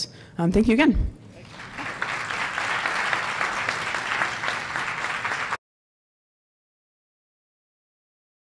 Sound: applause

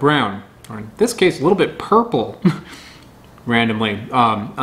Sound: chuckles

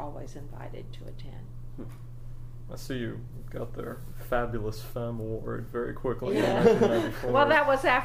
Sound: laughs

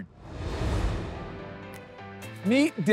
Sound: transition whooshing; upbeat music

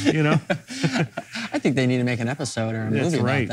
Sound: laughing

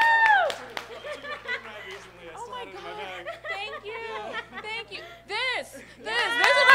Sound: applause

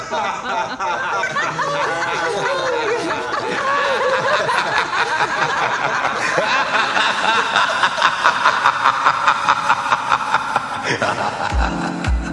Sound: laughter continues

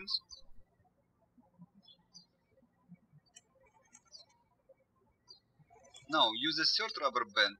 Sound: birds chirping

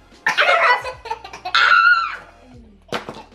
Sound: shrieks; laughs

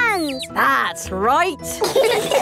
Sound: all laughing

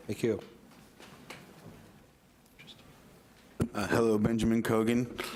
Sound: overlapping quiet chatter

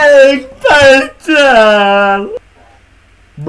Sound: crying

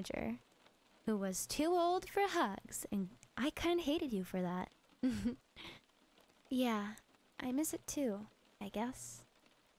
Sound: giggle

